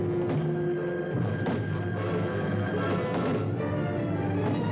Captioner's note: banging on door